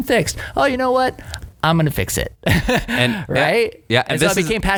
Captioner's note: laughs